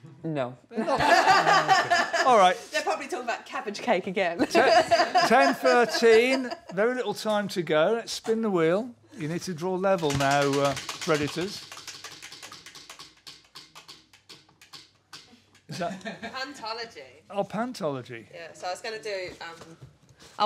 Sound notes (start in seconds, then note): 11.3 wheel clacking